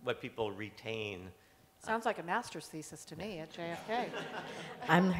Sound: laughter

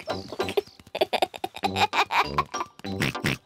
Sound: giggles; oinks

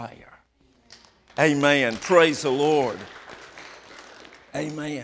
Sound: applause

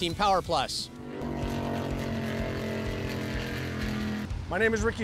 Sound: jetboat sounds

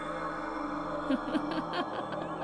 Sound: laughs

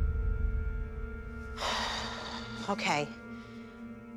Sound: sighs deeply

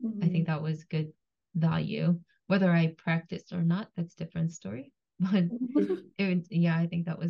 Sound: laughs

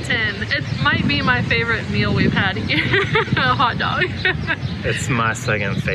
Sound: laughs

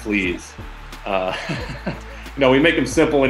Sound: laughs

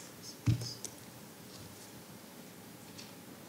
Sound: none

